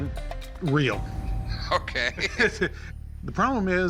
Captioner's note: Rick laughs